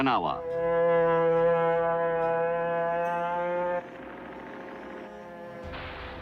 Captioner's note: plane engine roars